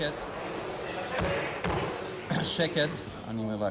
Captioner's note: gavel bangs